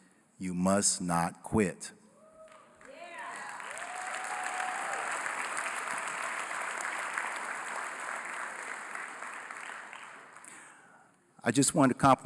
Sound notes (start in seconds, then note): 2.4 applause